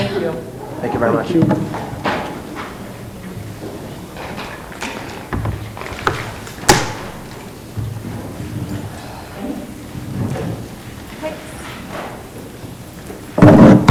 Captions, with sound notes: Thank you. - Thank you very much. - Thank you. (rustling)